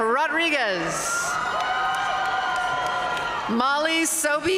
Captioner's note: audience cheering and applauding